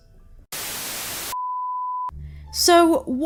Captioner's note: static